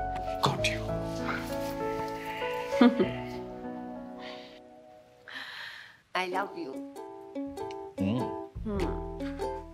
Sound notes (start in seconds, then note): 2.8 chuckles